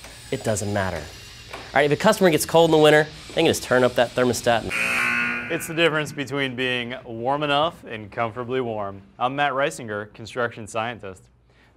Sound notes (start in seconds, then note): 4.7 buzzer